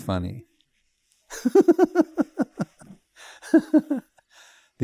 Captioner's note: laughs